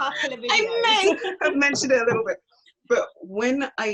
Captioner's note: laughs